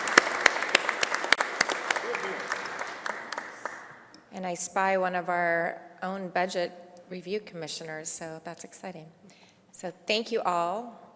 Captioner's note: applause